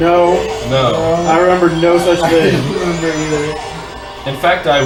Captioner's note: chuckling